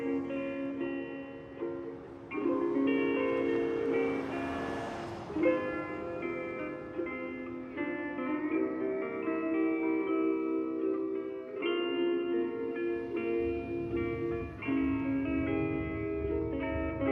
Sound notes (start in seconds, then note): 3.8 cars whooshing; 7.4 soft Hawaiian music; 14.0 vehicles rumbling